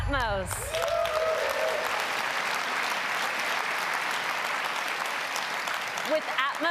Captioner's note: applause